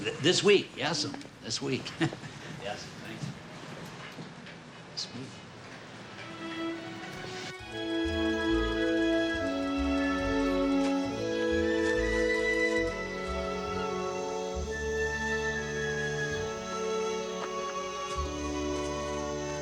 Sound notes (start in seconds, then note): 6.3 gentle music; 11.0 birds chirping; 14.9 insects chittering